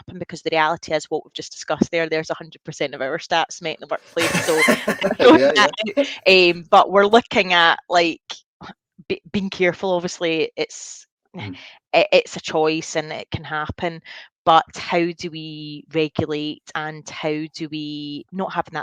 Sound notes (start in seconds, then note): 4.1 laughs